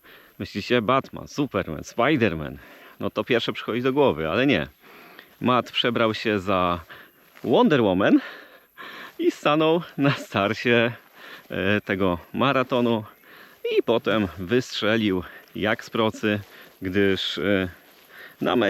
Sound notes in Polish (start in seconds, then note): 9.9 śmiech